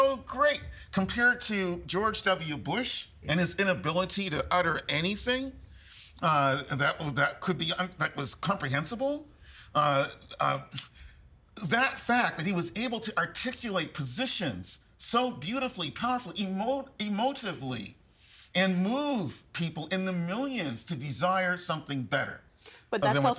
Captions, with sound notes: They were so great compared to George W Bush and his inability to utter anything that will-- that could be-- that was comprehensible. (Stammering) That fact that he was able to articulate positions so beautifully, powerfully, emotively, and move people in the millions to desire something better.